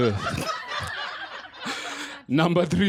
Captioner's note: laughter